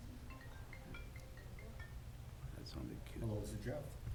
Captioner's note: phone ringing